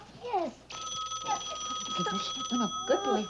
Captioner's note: phone rings